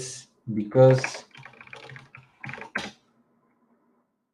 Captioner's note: keyboard clacking